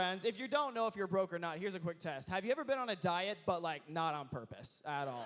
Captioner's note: crowd cheers